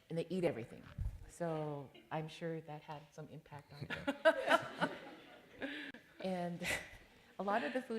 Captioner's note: laughter